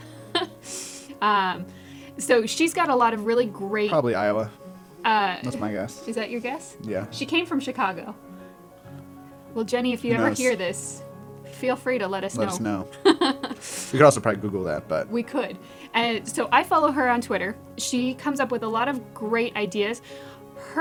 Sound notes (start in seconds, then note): 0.0 laugh; 12.3 laugh